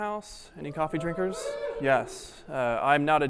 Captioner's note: audience wooing